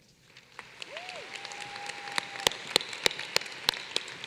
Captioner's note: applause